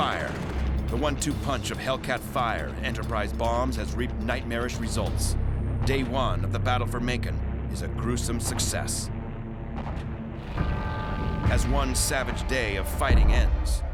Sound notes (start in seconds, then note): 9.8 explosion